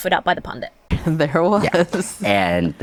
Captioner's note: laughs